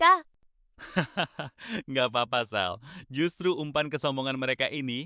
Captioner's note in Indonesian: tertawa